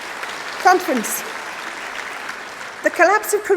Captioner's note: applause